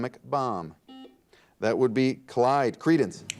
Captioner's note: buzzer dings